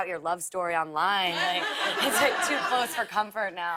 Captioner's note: laughter